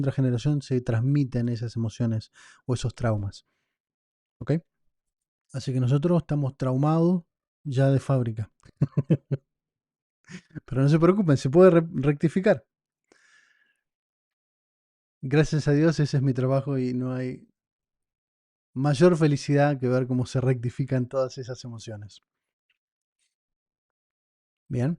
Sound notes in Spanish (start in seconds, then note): 8.6 risas